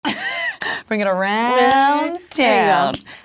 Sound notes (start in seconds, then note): 0.0 laughs